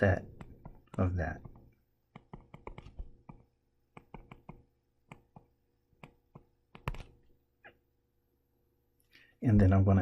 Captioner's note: tapping Sounds